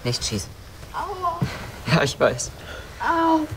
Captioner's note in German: Schmerzenslaute